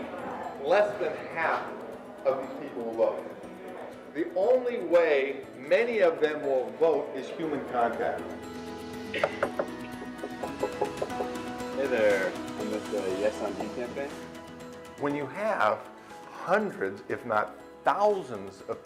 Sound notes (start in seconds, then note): 9.2 knocks at door; 15.4 voiceover